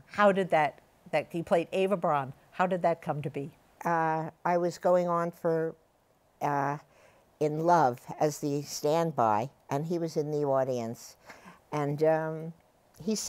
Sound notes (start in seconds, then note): none